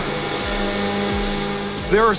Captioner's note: machine whirring